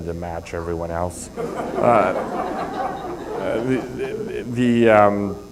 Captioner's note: laughter